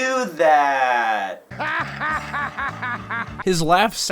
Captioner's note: boss dog laughing